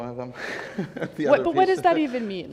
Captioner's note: chuckles